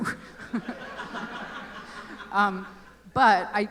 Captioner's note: laughter